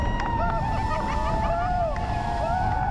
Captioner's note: laughter